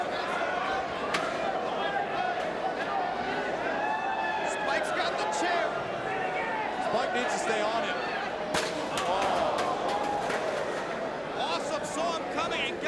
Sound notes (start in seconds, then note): 0.3 crowd vocalizing continues; 8.6 chair crashing